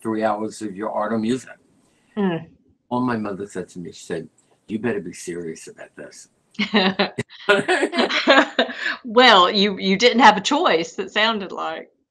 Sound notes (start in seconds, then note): 7.5 laughter